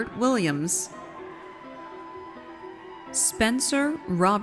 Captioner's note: audience cheers